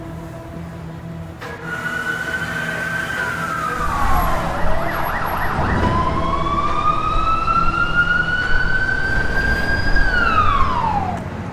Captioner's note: sirens